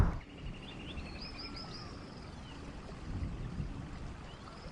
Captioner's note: birds chipping